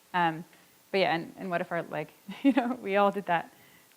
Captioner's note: chuckles